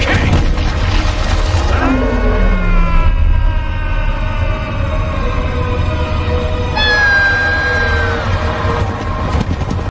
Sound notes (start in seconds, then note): 1.7 mufasa screams